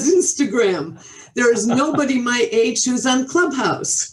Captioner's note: chuckles